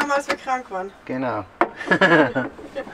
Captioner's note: laughs